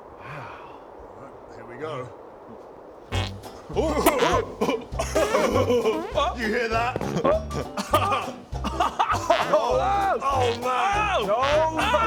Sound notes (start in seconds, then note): 5.1 farting cloud noises